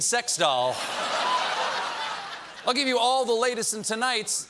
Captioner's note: laughter